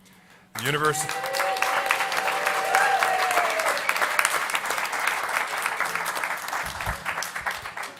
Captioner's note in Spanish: Aplausos